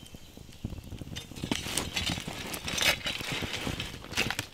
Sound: fire crackling

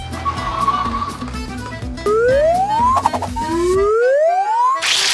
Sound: tires screeching

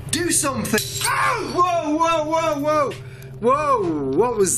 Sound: clattering; yelling

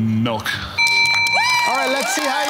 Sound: bell ringing

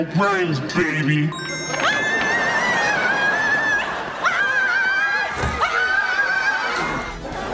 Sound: screaming

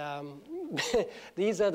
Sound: laughs

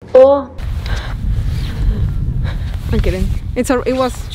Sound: breathing heavily

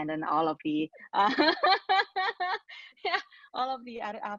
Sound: laughing

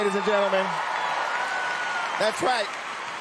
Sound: cheering

